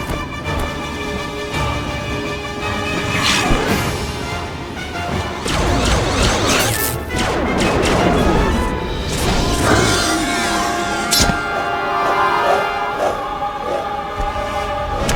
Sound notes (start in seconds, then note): 1.4 dramatic music; 3.4 raptor snarls; 5.4 gun blasting; 5.4 music intensifies; 7.3 gun blasting; 9.3 blast hits Raptor; 9.3 raptor roars; 11.0 blade clinks; 12.2 blade whooshes; 14.9 blade slices